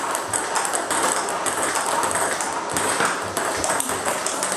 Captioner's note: ball ping pong hitting continues